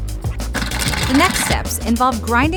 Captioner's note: rock rattling